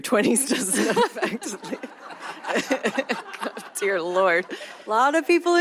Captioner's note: laughter